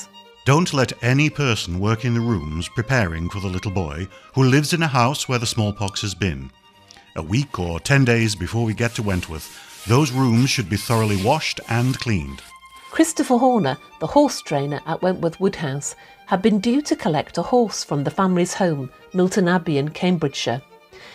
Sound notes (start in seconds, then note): 11.5 sound of scrubbing